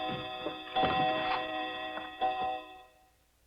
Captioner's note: chiming fades out